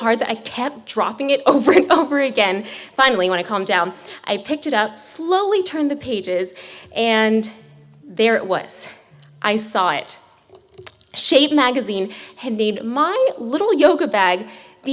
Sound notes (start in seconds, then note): none